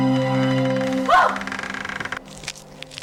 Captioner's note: surprised shouting